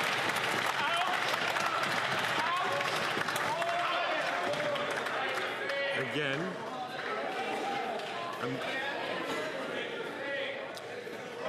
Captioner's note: some Applause